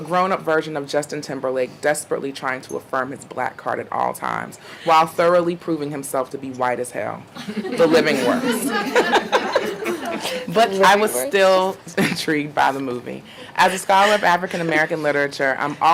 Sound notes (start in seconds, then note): 7.4 audience laughing